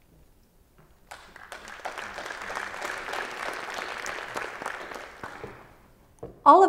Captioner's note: applause